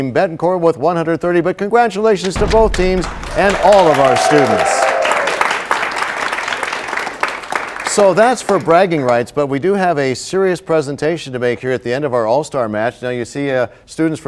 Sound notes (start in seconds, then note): 6.2 applause